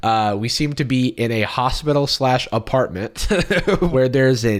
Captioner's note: laughs